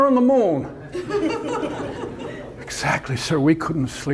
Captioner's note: audience laughter